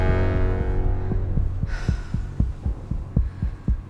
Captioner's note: breathing heavily